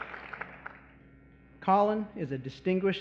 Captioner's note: applause